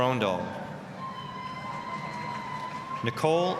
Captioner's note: applause, cheering